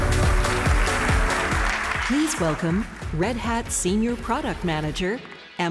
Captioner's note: applause